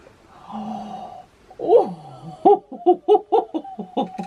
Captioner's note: gasps, giggles